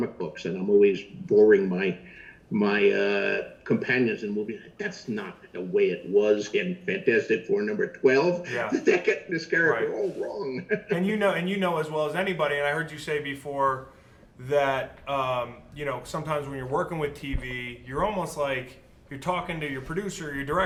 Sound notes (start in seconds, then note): 8.4 laughs